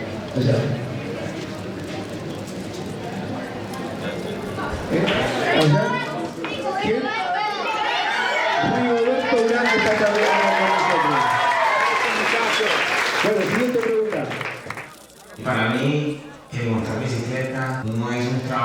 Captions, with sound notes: [cameras clicking] Rigo! Rigo! Rigo! [kids applauding] Thanks, kids! For me, riding a bike is not a job.